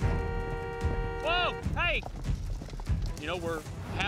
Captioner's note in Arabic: أصوات أبواق السيارات